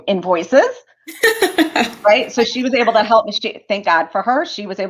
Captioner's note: laughter